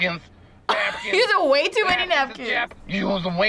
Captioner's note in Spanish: risas